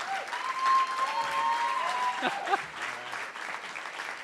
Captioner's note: cheering & Applause